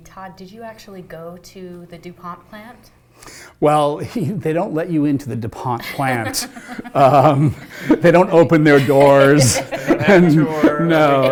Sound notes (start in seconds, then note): 5.8 laughter